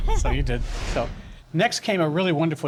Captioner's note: laughs